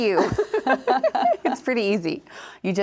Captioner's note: both chuckling